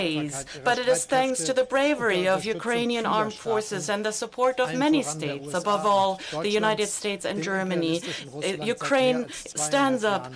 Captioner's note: speaks German